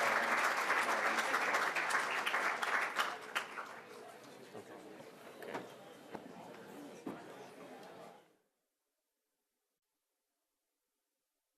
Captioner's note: applause